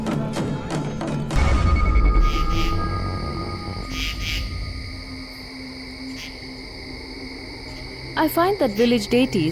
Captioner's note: crickets chirpping